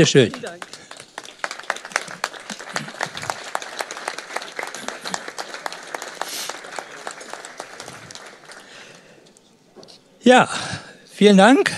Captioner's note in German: Applause